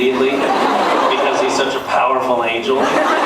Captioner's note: laughs